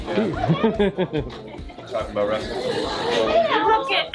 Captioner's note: laughing